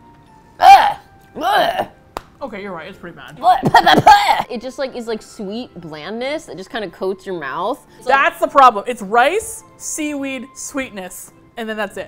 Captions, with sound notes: - *with disgust* Urgh! Blegh! - Okay, you're right. It's pretty bad. - *with disgust* Pehpehpeh! But it just like--is like, sweet blandness. It just kind of coats your mouth. - THAT'S the problem. It's rice, seaweed, sweetness, and then that's it.